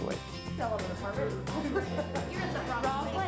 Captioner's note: excited chatter